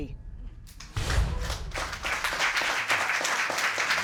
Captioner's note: audience applauding